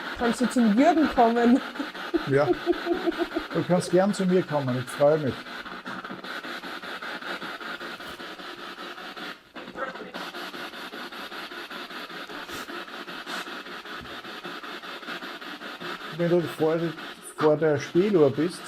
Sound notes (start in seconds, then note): 6.0 radio noise from the spirit box